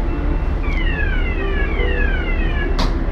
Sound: lift siren

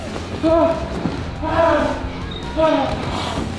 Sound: cheering continues; panting

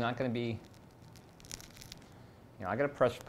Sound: roll cracking

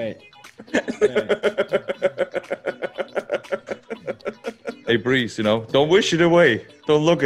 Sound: laugh

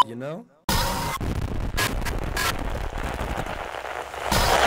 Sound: static

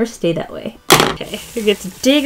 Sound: smack

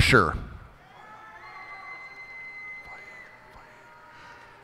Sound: cheers and applause

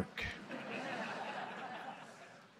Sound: laughter

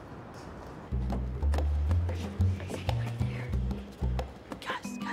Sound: whispering

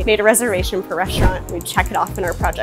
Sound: screen whooshing

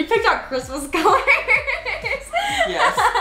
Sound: laughing

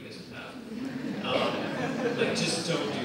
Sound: audience laughs

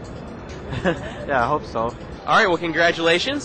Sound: chuckles

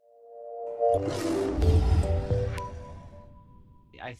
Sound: gentle music; lion roaring

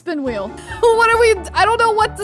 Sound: laughing

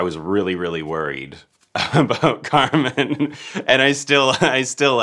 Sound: laughing

